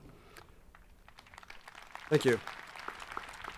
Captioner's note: people clapping